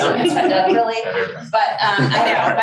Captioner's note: crowd laughs